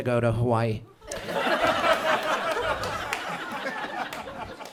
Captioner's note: audience laughs